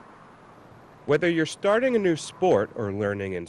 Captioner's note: voiceover